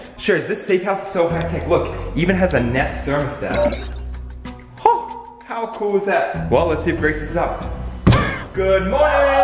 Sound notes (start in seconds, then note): 3.6 thermostat beeps